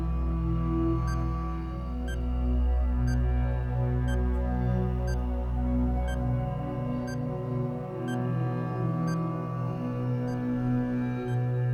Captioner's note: bomb Ticking